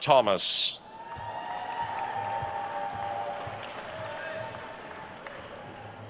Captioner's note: attendees cheering and applauding